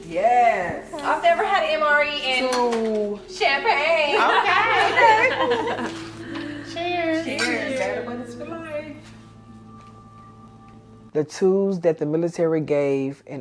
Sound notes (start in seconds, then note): 4.0 all laughing